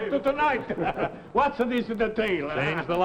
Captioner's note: all chuckle